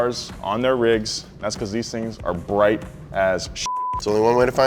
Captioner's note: beep